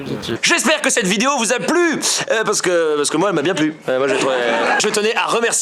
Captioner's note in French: rire